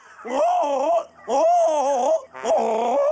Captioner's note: imitates gobbling